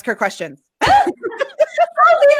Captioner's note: laughing